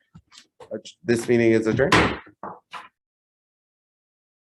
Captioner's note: gavel bangs